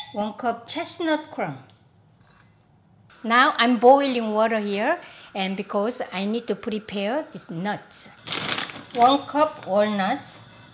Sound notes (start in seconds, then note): 8.2 bag crinkling